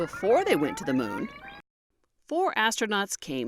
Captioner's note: sound of video rewinding